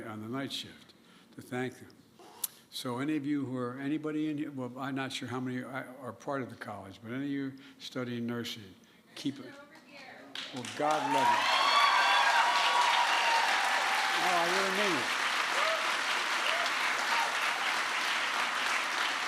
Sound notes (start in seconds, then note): 9.8 applause